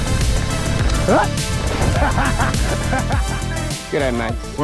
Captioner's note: laughs